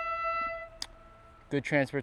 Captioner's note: train horn